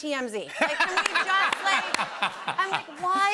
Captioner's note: laughter